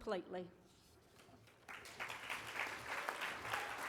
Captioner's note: applause